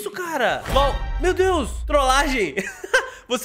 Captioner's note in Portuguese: risos